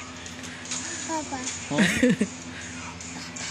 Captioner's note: laughs